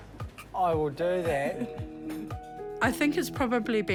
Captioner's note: chuckles